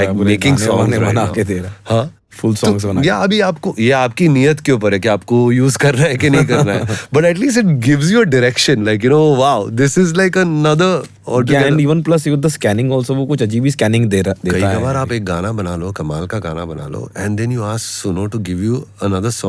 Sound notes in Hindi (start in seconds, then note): 6.2 हंसी